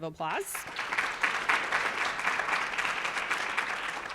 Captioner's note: audience applauds